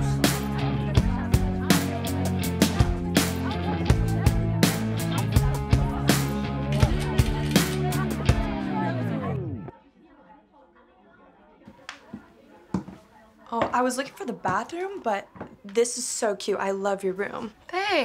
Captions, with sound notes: (camera shutter clicking) - Oh, I was looking for the bathroom, but this is so cute. I love your room.